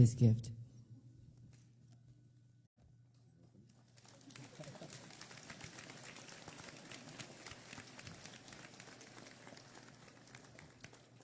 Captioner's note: applause